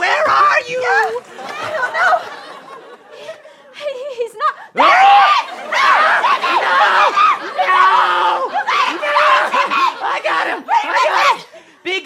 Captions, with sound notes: WHERE ARE YOU? >>THERE HE IS! [SCREAMING] YOU GOT HIM! TIMMY! >>I GOT HIM!